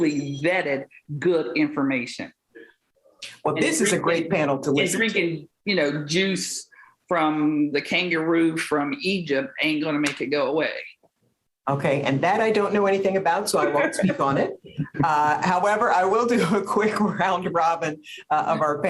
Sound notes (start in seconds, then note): 13.6 laughs; 17.0 laughs